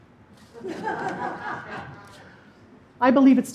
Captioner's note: laughing